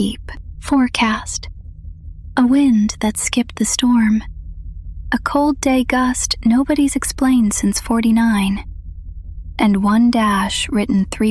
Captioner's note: whispers